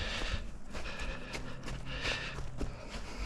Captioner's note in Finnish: läähätys